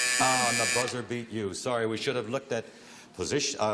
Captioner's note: buzzer